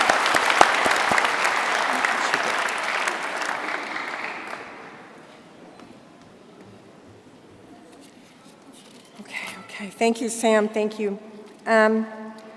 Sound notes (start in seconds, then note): 0.0 applause